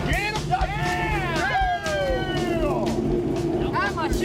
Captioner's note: cheering